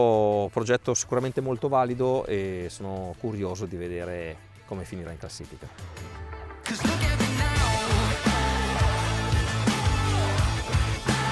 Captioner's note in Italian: Applauso